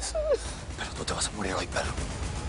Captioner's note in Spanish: Sollozos